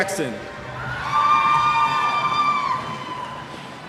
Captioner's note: cheers